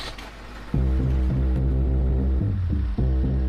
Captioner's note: engine starts